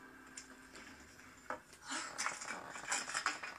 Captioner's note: under her breath